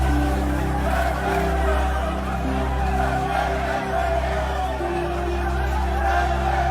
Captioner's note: gentle music; people chanting